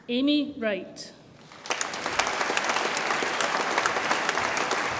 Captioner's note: audience applauds